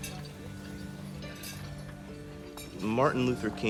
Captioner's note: glassware, silverware clinking